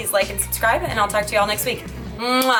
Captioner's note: smooching